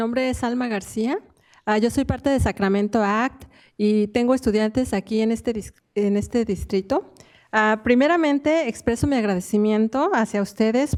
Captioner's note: speaking in spanish